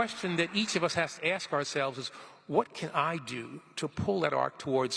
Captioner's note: applause